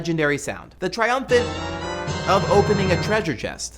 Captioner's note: zelda sound effect